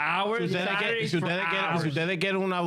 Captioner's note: speaking In Foreign Language